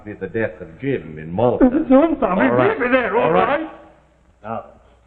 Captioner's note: hysterics